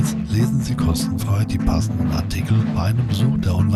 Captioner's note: in German